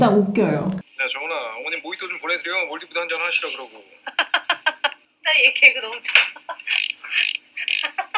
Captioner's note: Song-hwa laughing at his jokes, saying it's her style of humor